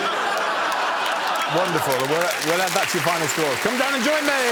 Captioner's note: laughter; audience exclaims